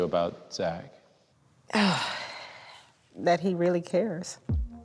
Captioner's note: sighs; dramatic music